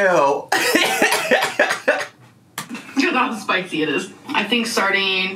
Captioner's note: laughing